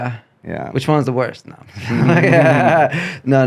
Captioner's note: both laughing